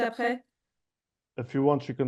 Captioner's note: speaking in French